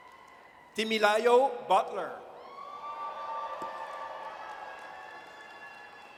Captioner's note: audience cheers